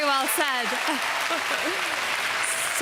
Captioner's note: applause